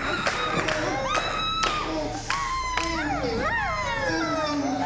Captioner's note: hands clapping; victims groaning